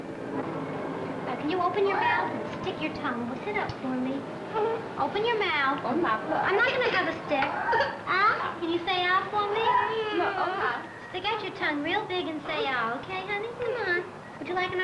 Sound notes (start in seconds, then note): 7.8 crying